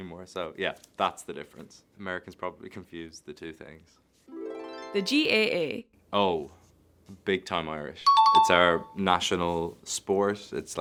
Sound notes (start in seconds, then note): 4.3 chiming music; 8.0 chime dings